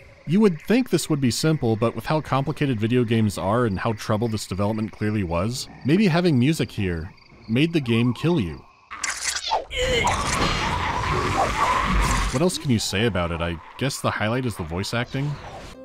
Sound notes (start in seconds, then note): 8.9 obnoxious cackling